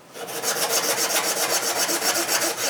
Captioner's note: sanding sounds